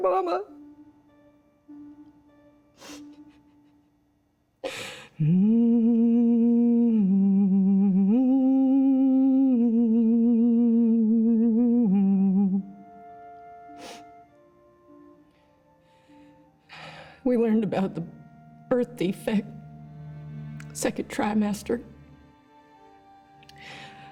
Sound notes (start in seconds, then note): 0.2 slow tempo music; 5.1 humming; 12.5 slow tempo music